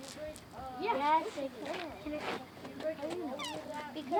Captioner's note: children chattering